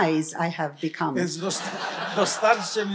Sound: laughter; foreign language

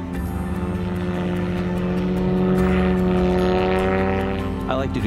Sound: airplane humming

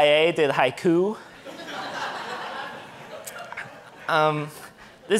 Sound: audience laughing

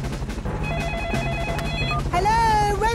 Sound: phone ringing

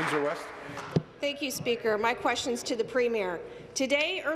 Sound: applause

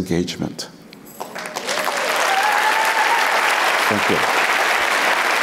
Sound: applauds

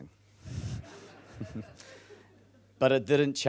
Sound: laughing

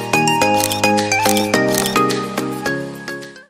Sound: camera Click

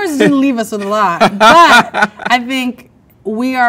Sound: man laughs

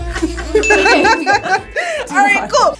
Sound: laughs

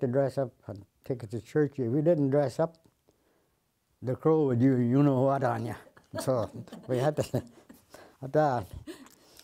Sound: laughter

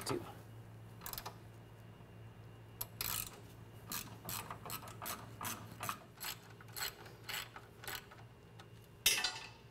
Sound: ratcheting

